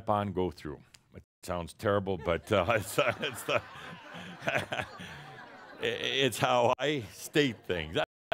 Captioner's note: laughter